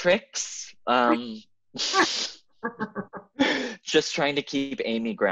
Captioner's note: Amy laughing